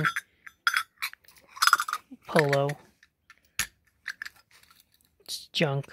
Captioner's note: sound of the jewelry clinking together